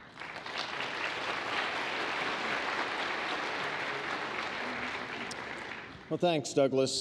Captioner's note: applause